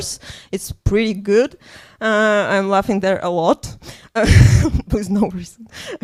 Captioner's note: laughs